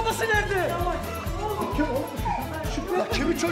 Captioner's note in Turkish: Ağlama sesi